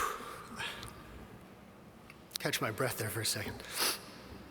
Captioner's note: sighs